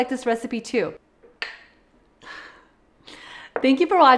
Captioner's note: bowls clinking